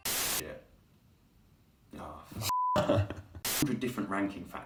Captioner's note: beep; man laughs